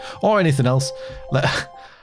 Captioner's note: exhales in incompetence; chuckles in this'll do